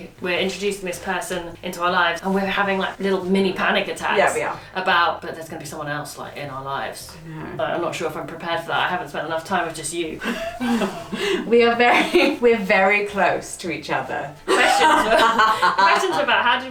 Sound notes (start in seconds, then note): 10.2 laughs; 14.5 laughs